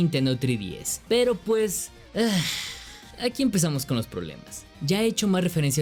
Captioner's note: sigh